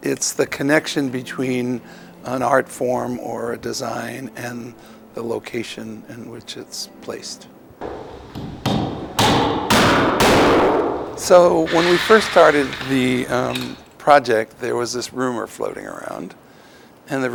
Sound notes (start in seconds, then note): 7.8 banging